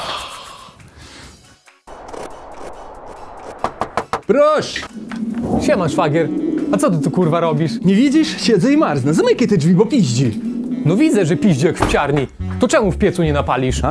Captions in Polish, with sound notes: [Pukanie do drzwi] Proszę Siema Szwagier, a co ty tu kurwa robisz? Nie widzisz? Siedzę i marznę, zamykaj te drzwi bo piździ No widzę że piździ jak w psiarni, to czemu w piecu nie na palisz?